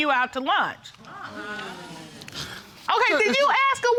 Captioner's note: audience exclaiming